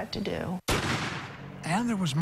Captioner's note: gunfire